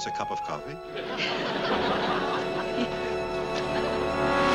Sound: giggles

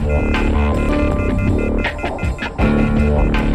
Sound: dial tone

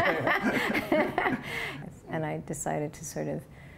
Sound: laughter

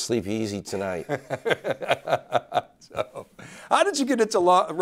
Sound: laughs

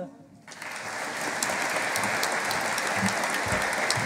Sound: audience applauding

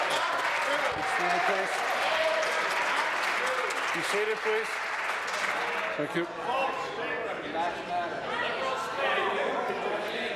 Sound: applause

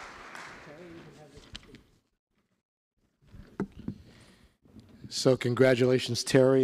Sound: applause

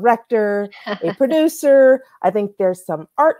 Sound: chuckles

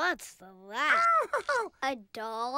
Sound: Elmo laughs

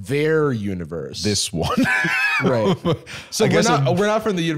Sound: laughs

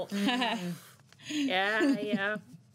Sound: laughs

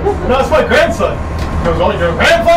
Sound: laughs

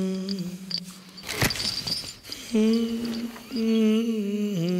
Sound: rustling

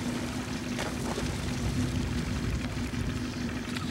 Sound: splashing

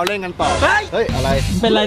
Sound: shouts

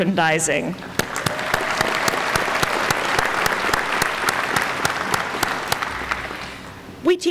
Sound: applause

